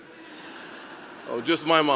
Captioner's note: audience laughing